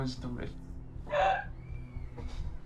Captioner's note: whimpering cry